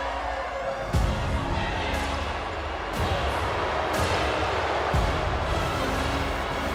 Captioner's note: crowd cheering; intense music